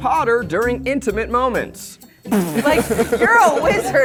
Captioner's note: laughs